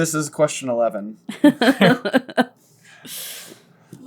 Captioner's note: laughter